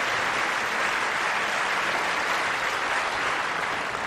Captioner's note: applause